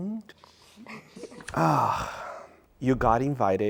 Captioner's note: sighing